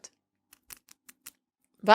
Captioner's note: nails clicking